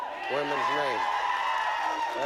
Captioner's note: audience cheers